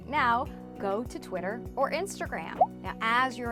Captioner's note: bubble pops